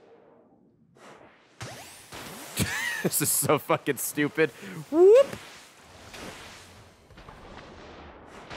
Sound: laughs

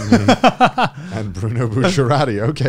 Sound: chuckling

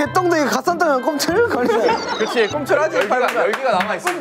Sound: laugh out loud

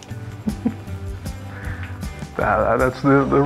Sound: laughing

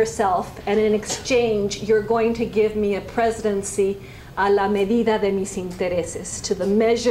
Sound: spanish

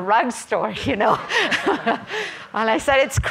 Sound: everyone laughing

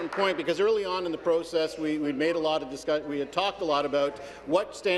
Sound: applause

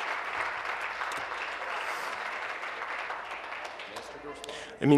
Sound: applause

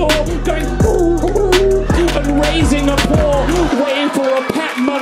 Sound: dog whining

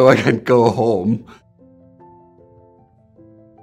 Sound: laughs

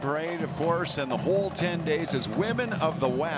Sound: cheering and Applause

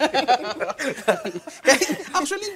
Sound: laughter

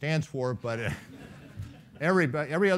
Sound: laughing

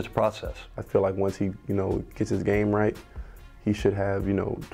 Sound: voiceover

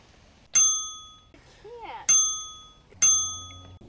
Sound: ding

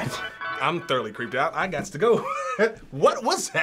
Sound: laughs

